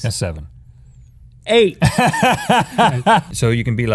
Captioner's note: laughter